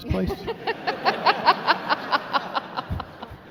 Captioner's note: laughing